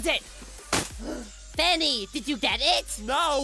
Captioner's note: gasp